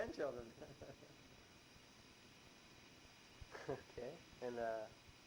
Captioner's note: chuckles